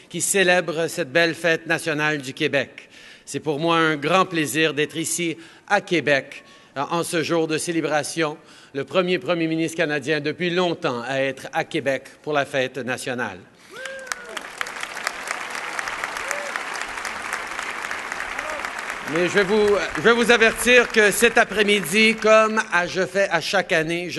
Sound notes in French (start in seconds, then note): 13.7 Applaudissements